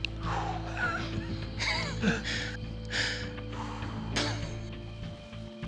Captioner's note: laughing